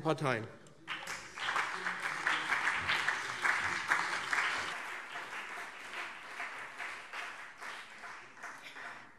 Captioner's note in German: Beifall BÜNDNIS 90/DIE GRÜNEN und CDU